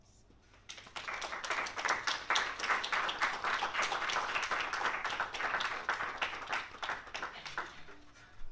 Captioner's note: applause